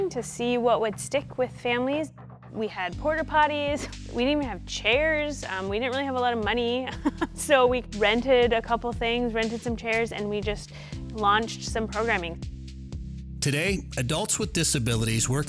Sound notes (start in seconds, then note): 6.9 chuckling